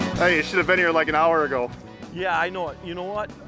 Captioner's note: voiceover